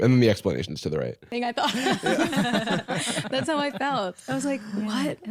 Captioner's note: laughing